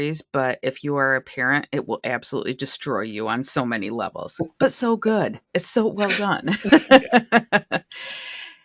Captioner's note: laughter